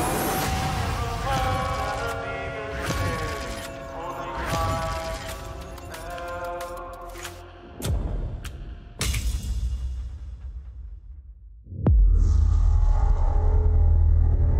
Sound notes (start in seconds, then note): 5.2 clicking; 10.2 transition sound